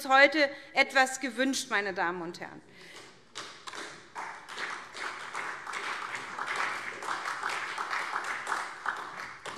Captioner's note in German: Vereinzelter Beifall SPD